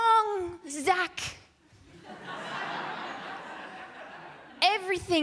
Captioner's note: laughter